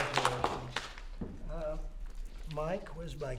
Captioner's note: applause